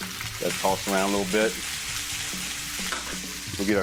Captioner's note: food sizzling